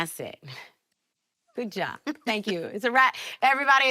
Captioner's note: laughs